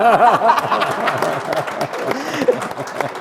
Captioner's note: laughter